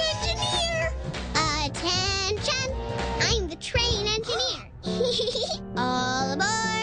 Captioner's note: giggles